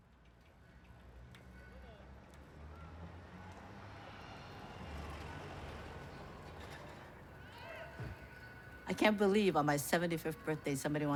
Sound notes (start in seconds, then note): 1.3 ambient noise of city neighborhood